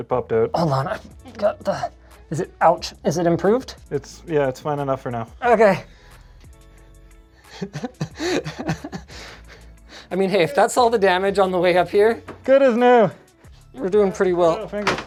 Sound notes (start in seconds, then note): 7.5 laughing